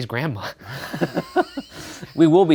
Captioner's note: laughing